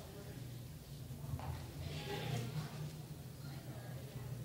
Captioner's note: people talking